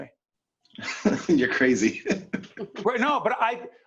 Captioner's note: laughing